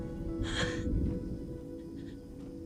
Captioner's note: chuckles